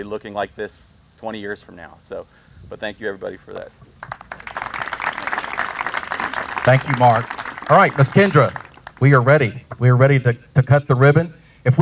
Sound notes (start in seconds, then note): 4.0 audience applauds